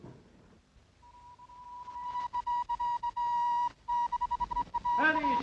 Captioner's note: radio transmission beeping